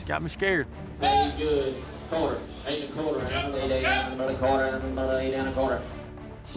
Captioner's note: auctioneering